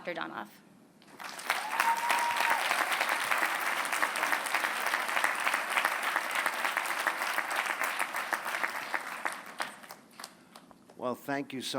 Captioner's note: applause